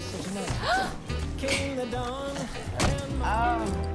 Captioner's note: gasps